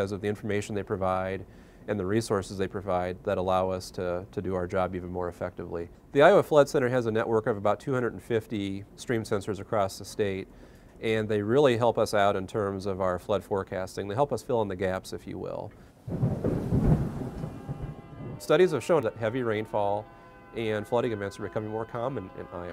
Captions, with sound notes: of the information they provide and the resources they provide that allow us to do our job even more effectively. The Iowa Flood Center has a network of about 250 stream sensors across the state and they really help us out in terms of our flood forecasting. They help us fill in the gaps, if you will. (Thunder) Studies have shown that heavy rainfall and flooding events are becoming more common in